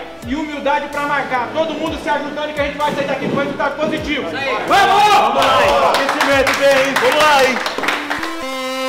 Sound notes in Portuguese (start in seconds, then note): 4.4 gritos de incentivo